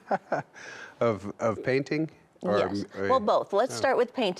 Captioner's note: laughs